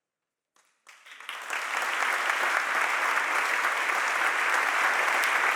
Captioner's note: audience applauding